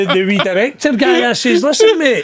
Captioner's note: laughing